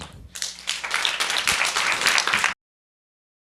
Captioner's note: audience applause